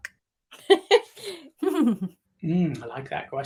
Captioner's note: laughing